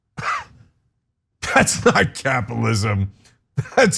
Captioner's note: laugh